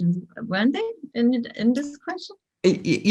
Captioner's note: giggles